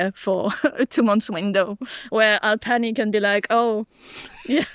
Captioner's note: chuckles